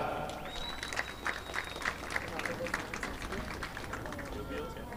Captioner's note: audience clapping